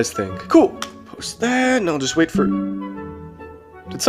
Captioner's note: notification